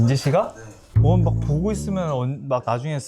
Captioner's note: fart